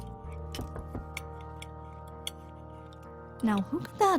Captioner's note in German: Klopfen